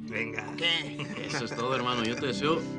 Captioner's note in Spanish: Risas